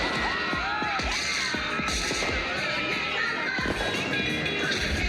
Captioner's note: screaming continues